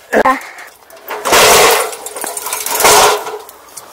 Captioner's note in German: krach